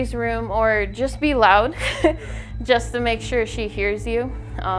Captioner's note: chuckles